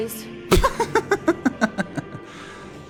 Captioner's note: laughs